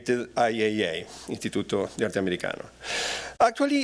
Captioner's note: non-english speech